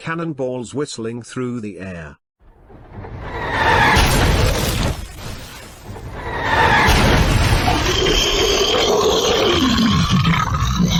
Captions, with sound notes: Cannon Balls Whistling Through The Air ! [Massive Explosion] [Loud Monster Roar]